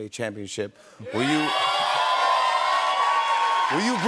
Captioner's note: cheers and applause